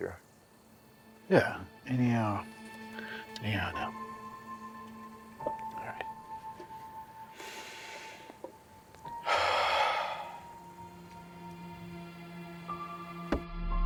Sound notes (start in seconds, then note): 9.2 takes a deep breath; 10.2 mysterious music; 13.6 suspenseful tones